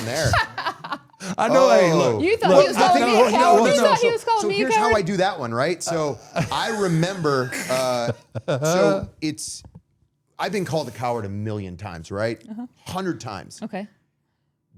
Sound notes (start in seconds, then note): 0.2 laughing; 1.2 all chattering; 5.9 laughs